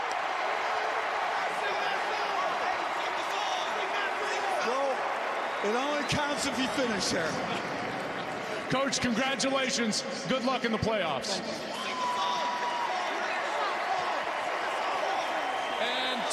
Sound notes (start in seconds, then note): 6.2 cheers and applause